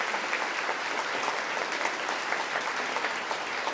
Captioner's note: applause